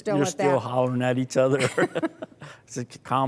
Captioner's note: both laughing